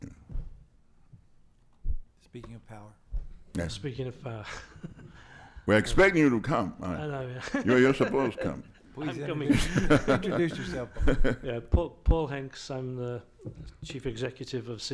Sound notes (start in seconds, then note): 7.4 laughs; 10.1 laughter